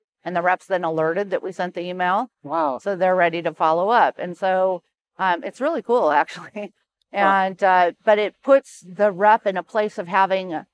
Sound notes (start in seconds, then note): 6.0 chuckles